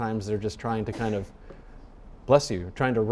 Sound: person sneezing

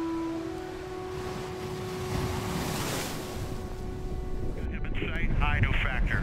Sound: tranquil music; waves crashing

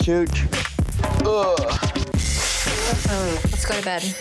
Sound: moans; blowing nose

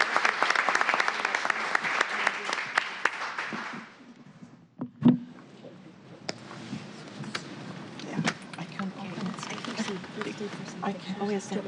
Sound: applause

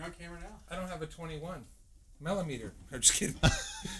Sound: laughter

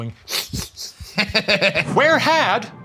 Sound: snickering; laughing

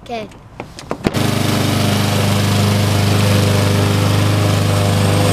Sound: lawnmower running

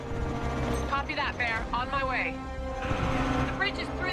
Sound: radio

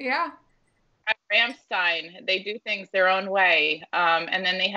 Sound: audio distorting

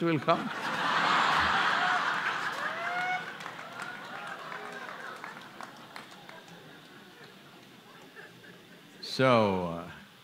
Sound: laughter/Applause

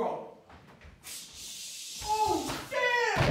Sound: web noises

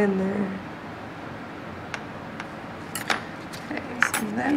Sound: tools clanking

